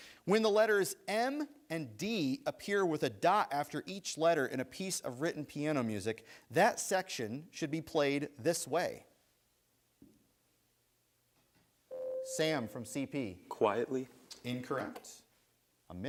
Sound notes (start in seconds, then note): 11.9 buzzer sounds